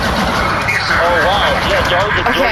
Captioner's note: machine-gun sex blasts